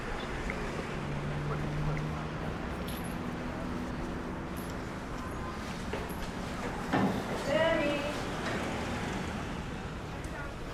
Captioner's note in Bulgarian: Свистене на превозни средства на заден план